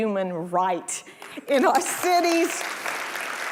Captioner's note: audience applauding